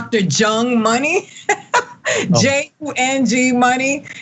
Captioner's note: laugh